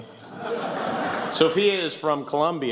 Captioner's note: laughs